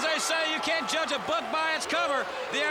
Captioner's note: crowd cheering